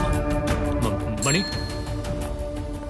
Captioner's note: Call bell dings